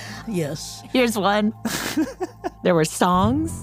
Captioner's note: laughs